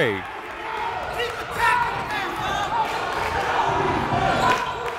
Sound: cheering

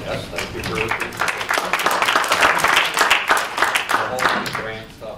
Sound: applause

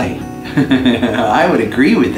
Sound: laughs

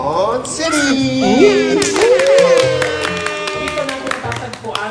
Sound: cheering

